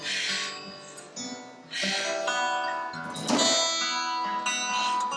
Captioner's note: panting